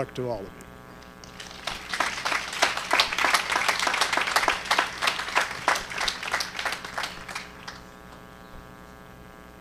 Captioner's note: applause